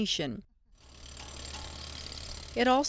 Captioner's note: motor revving